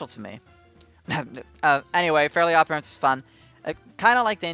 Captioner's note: cough